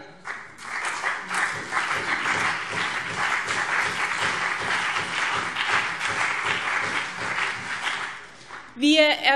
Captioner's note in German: Beifall BÜNDNIS 90/DIE GRÜNEN und vereinzelt CDU